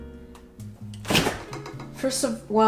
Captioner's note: fridge opening